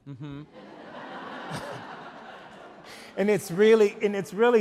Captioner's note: audience laugh